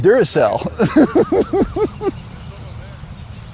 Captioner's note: laughs